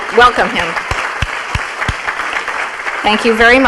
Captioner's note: audience applauding